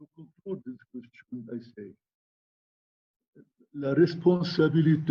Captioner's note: speaking in foreign language